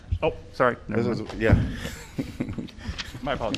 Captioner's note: laughter